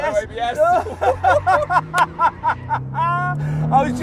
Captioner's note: both laugh